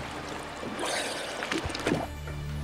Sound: water-clogged breathing

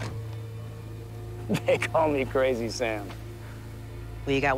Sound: chuckles

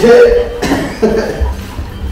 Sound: laughs

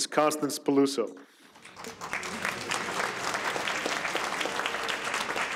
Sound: audience applauds

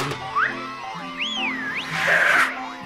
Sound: woman whistles

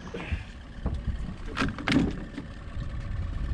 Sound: thunk

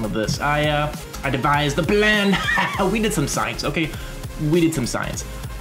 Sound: laughs

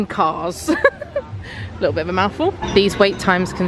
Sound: laughs

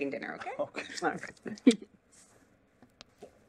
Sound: laughter

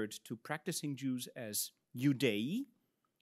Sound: speaks in Latin

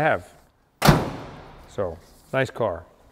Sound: door slams

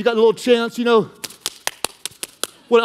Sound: hands clapping; hands slapping

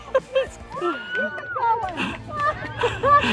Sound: laughs

